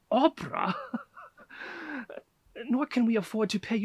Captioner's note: chuckles